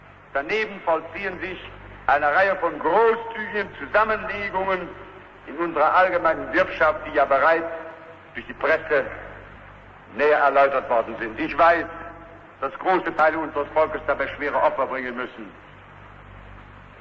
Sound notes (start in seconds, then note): none